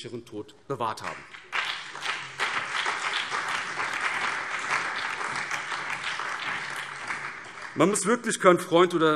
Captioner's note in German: Beifall BÜNDNIS 90/DIE GRÜNEN, CDU, SPD, Freie Demokraten und DIE LINKE